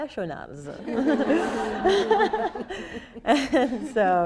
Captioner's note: people laughing